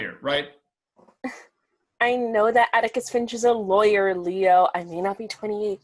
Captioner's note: scoffs